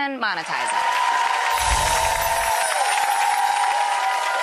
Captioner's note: clapping and cheering